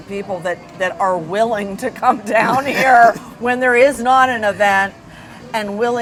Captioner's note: chuckling